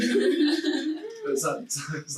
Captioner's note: laughing loudly